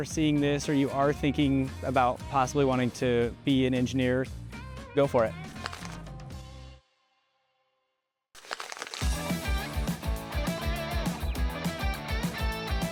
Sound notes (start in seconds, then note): 5.8 paper crinkles; 9.0 lively music